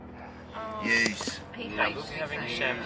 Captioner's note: people chattering